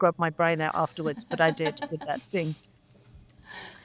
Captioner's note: laughs